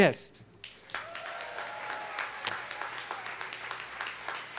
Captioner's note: students clapping